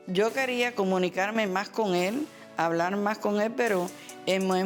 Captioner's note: speaking Spanish